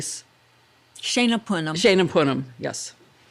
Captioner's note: women speak foreign language